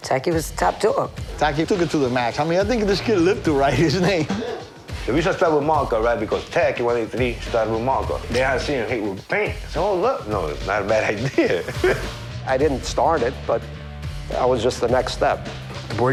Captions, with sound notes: - Taki was top dog. - Taki took it to the max. I mean I think this kid lived to write his name. - He did. - Maybe should start with Marco, right? Because Taki 183 started with Marco. Then I see him hit with paint. I said, "Oh look. No, it's not a bad idea." (chuckles) - I didn't start it, but I was just the next step.